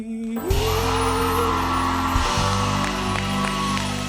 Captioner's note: cheers and applause